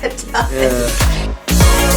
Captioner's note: laughing